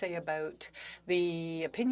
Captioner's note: speaking French